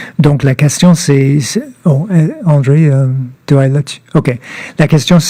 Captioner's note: speaking French